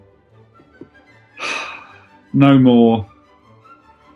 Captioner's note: sighs